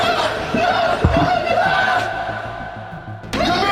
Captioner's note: screams